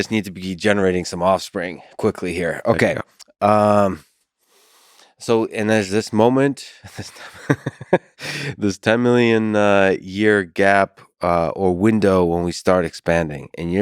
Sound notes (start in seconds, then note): 6.7 laughs; 7.0 chuckles